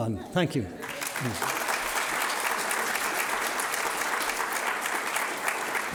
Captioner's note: audience applauding